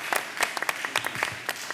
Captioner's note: applause